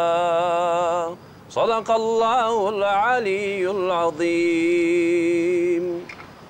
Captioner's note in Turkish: Arapça kuran okunuyor